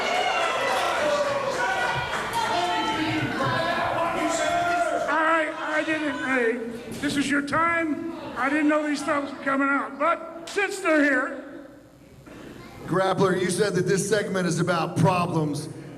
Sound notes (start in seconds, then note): 0.0 crowd cheers